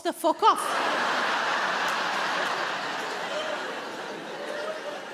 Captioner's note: audience laughing